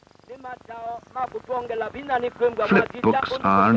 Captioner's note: non-English speech